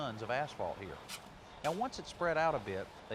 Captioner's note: shovels hitting